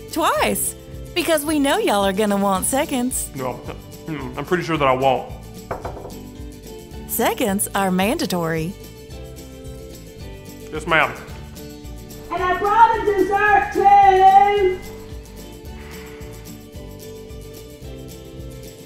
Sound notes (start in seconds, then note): 5.7 knocks; 14.9 lively instrumental music